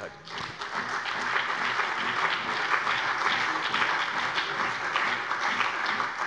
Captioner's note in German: Beifall bei der CDU und dem BÜNDNIS 90/DIE GRÜNEN